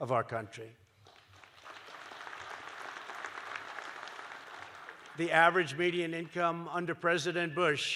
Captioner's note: applause